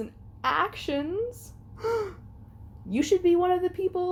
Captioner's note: mocking gasp